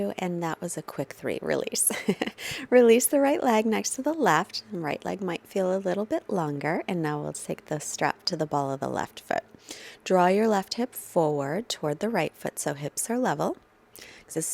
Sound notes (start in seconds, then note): 1.9 chuckles